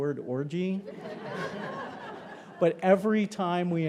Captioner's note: attendees laughing